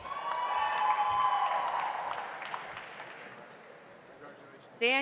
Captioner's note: audience cheering; audience applauding